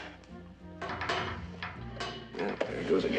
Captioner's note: Borular çıngırak